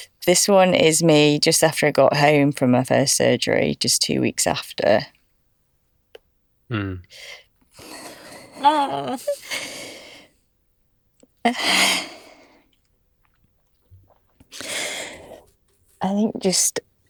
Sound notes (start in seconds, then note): 11.4 sobbing